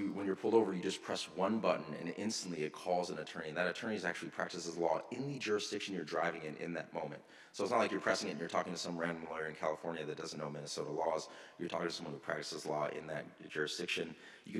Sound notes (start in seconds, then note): none